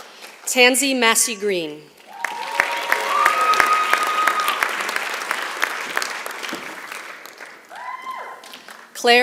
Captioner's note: applause